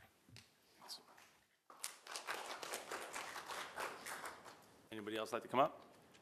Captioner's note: applause